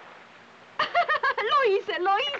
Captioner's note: laughs